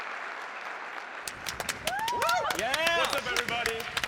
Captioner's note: cheering